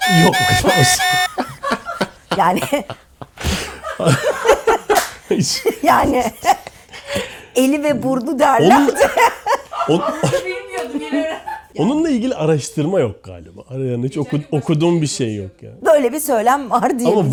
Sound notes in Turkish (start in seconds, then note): 1.0 kahkaha; 8.6 kahkaha